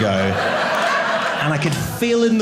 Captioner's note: audience laughing